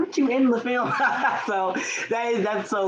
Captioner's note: all laughing